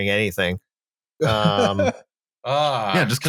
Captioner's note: laughs